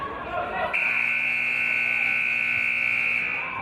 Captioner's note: buzzer